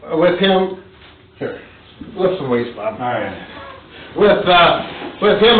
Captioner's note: laughs